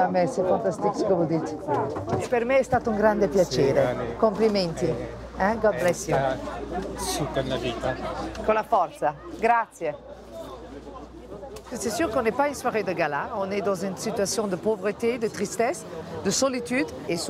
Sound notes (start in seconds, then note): 2.3 speaks in Italian; 5.6 in English; 8.4 in Italian